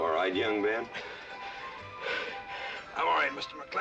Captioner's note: panting